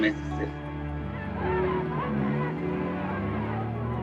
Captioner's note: crowd shouting